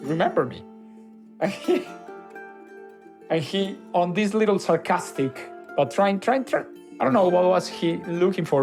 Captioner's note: laughs